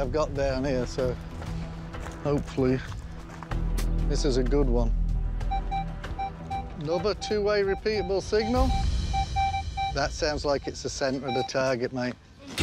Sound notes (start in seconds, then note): 5.5 detector beeping